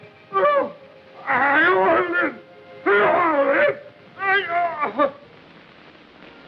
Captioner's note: incoherent cries